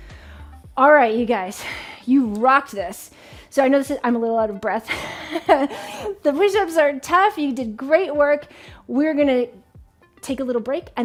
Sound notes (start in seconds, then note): 5.8 laughs